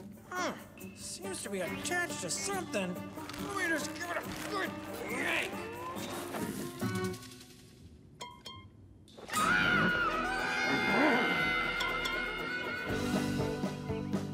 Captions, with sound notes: Hmm, seems to be attached to something. Let me just give it a good yank. (screaming) (upbeat music)